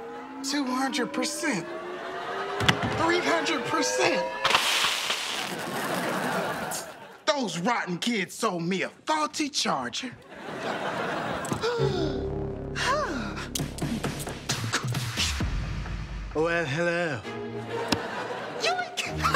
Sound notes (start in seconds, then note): 4.4 electricity zaps; 11.6 gasps; 15.1 dramatic music